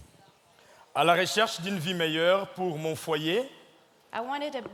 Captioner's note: speaking in French